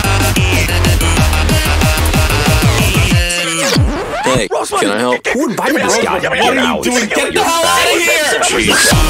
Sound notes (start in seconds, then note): 3.6 record scratch